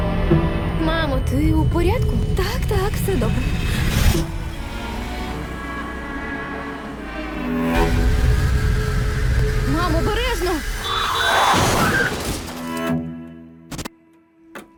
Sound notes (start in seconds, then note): 3.2 unsettling music; 4.6 pleasant music resumes; 7.7 unsettling music; 10.6 horn honks; 10.8 loud crash; 12.0 unsettling music playing